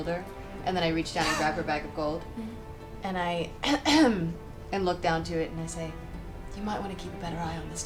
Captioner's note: clears throat